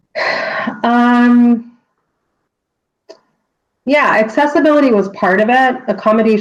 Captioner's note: sighs